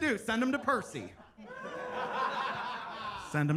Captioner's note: attendees laughing